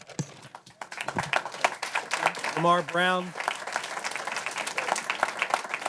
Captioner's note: applause